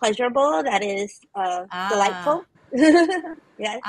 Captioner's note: laughs